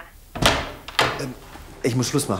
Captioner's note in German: Tür öffnet sich